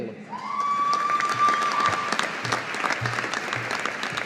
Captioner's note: audience applauding